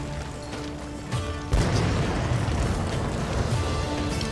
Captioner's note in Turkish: Patlama sesi